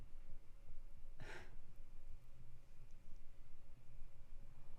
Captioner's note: Trisha gasping